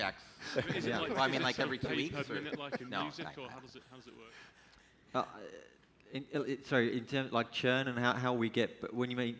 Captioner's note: laughter